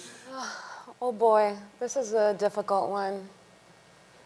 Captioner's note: sighs